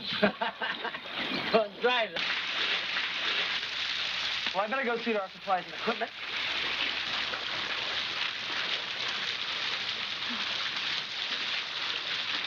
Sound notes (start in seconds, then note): 0.1 laughing; 6.2 water running